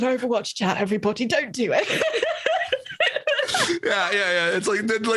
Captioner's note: laughs